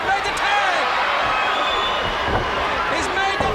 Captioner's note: audience cheers